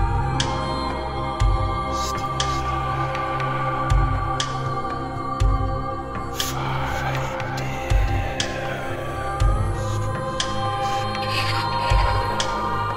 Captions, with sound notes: (eerie whispering) - [Voices] The staff Find it Destroy